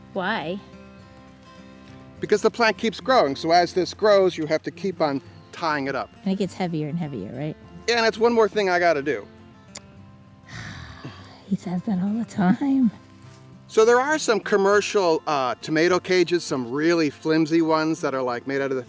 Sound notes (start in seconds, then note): 10.4 woman tsks and sighs